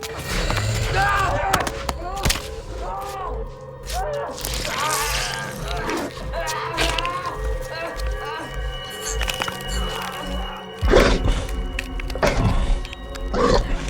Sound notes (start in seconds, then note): 0.2 vampires growl; 4.1 Adam groans; 10.9 vampires growl